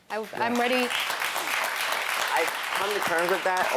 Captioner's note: audience applaud